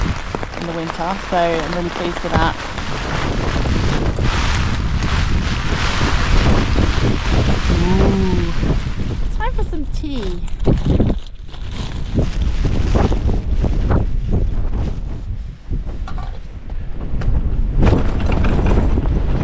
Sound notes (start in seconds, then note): 3.2 wind gusting; 11.2 wind gusting